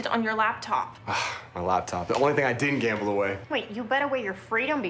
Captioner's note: sighs